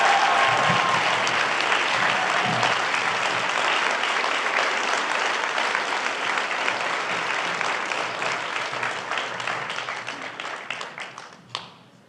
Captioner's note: applause